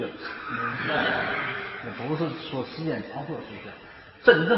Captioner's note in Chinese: 大众笑